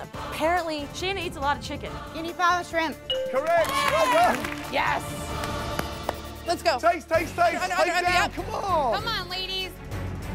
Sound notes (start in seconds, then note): 3.3 clapping